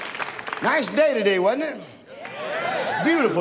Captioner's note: audience cheers in agreement